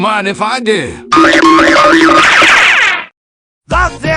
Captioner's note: goofy ahh Cartoon Running noises